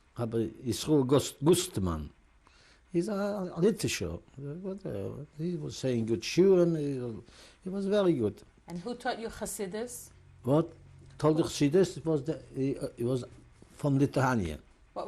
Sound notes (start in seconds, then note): 3.5 non-english; 6.6 non-english